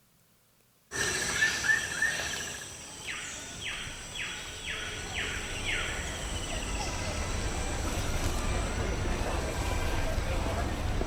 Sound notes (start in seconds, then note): 1.3 birds chirping; 7.4 crowd chattering